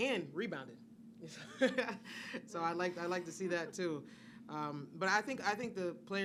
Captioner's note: laughs